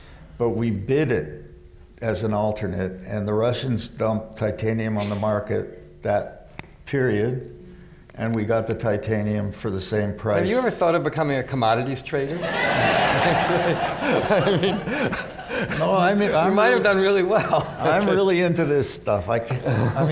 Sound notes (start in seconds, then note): 12.3 laughter